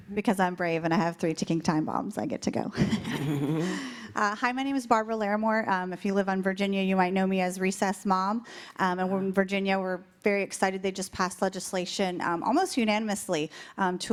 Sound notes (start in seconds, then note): 2.8 laughter